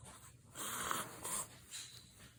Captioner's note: sniff sniff